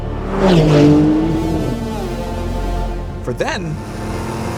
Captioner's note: engine revs